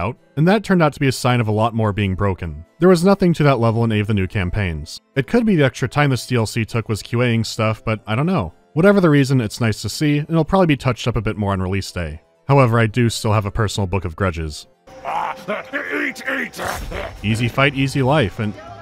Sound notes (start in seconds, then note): 16.4 snarls; 18.6 jolly yodeling